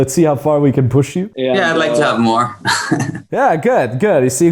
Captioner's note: chuckles